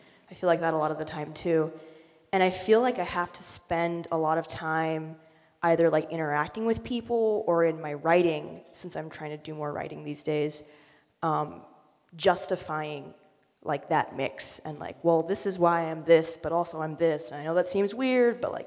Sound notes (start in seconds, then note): none